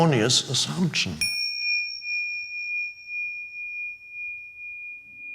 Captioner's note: bell dinging